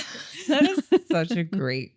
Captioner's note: laughs